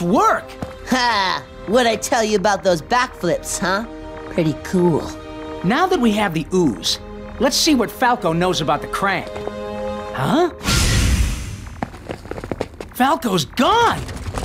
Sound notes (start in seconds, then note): none